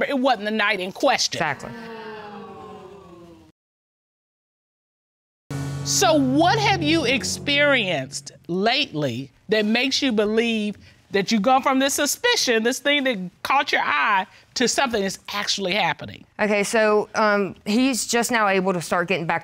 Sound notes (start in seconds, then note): 1.6 audience exclaims